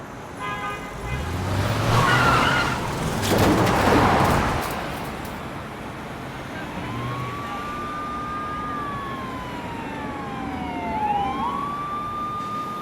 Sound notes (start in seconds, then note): 0.3 car horn; 2.5 tires screech; 7.3 sirens wailing